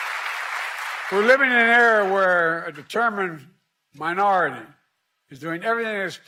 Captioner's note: applause